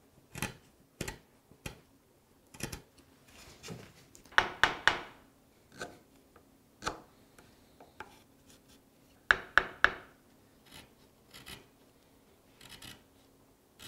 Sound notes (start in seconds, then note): 4.3 hammer knocks; 5.9 chisel rattles; 9.3 hammer knocks; 10.8 chisel rattles